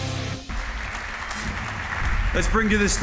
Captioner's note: applause